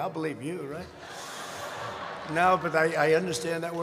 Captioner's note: laughter